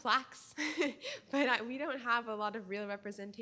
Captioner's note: laughter